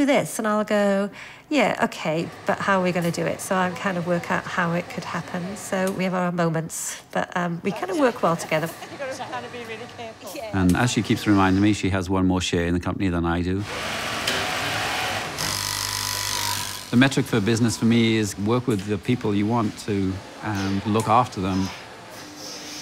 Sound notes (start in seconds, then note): 8.7 indistinct conversation; 13.8 machines whirring, buzzing